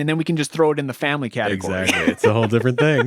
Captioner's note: laughing